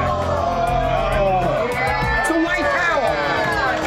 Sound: customers exclaiming; customers groaning

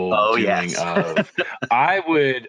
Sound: laughing

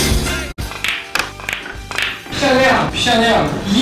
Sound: using unknown accent again, not standard Mandarin

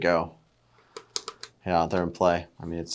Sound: hopper clicks

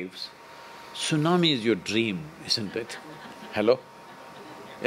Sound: few laugh

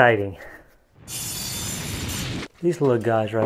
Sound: whooshing sound

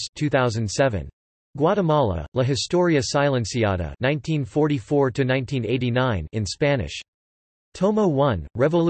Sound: in Spanish

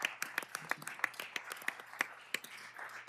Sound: applause

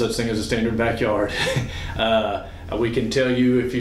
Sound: laughs

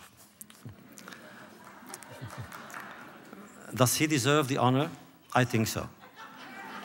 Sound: laughter

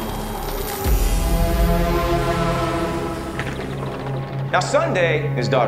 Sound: dramatic Braaam Sound

